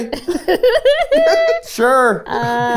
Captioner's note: laughing